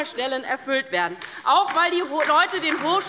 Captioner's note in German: Beifall bei der LINKEN